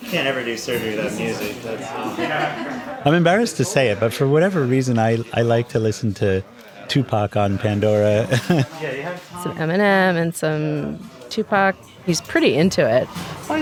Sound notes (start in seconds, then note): 2.0 everybody laughing; 8.2 chuckles